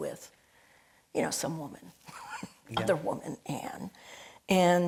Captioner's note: laughing